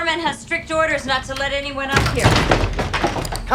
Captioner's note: thudding